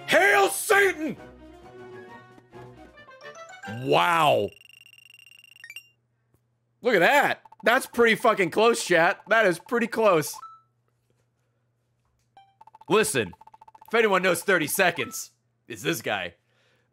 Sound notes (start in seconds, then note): none